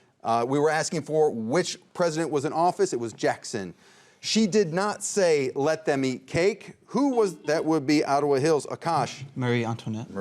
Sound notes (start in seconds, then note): 7.3 buzzer rings